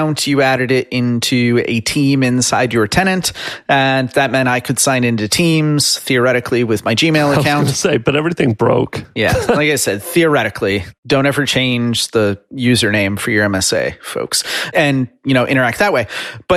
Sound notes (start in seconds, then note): 7.5 chuckles